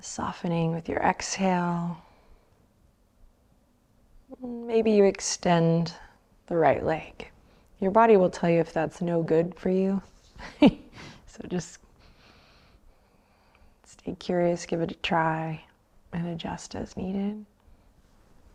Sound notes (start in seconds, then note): 10.4 chuckles